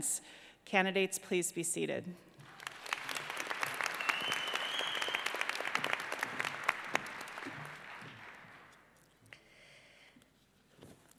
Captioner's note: applause